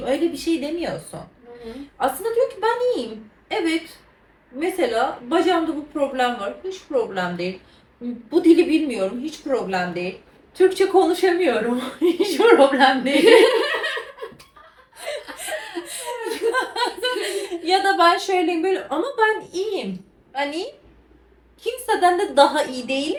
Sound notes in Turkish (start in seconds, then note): 13.0 kahkaha